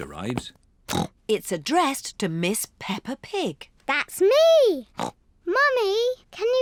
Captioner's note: snorts